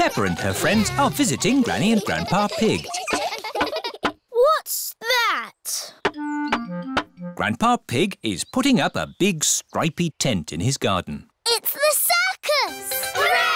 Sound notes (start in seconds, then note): 3.5 all giggling